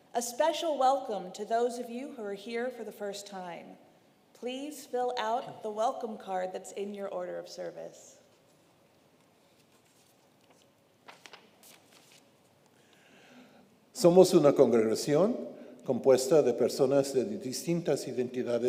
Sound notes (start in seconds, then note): 11.0 paper rustling; 14.0 speaks in foreign language